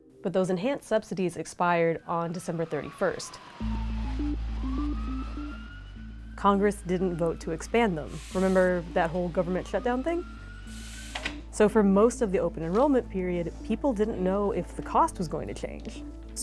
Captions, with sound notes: - But those enhanced subsidies expired on December 31st. (sirens wailing) (gritty electronic music) Congress didn't vote to expand them. Remember that whole government shutdown thing? So for most of the open enrollment period, people didn't know if the cost was going to change.